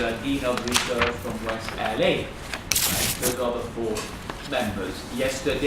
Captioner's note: tape disturbance